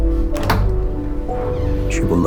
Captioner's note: door creaks